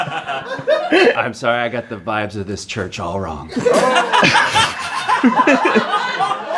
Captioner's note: laughter